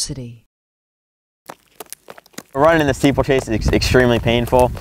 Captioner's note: feet running